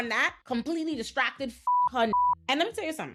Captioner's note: beep